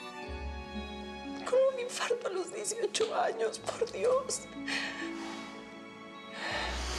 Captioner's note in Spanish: solloza